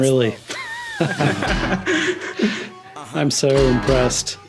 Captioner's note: laugh